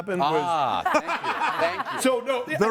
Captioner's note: everyone laughs